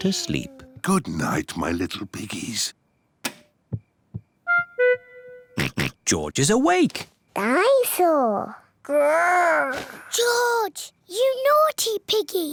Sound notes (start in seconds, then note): 3.2 light switch clicks; 5.6 oinks